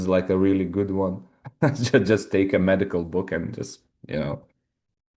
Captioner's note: chuckles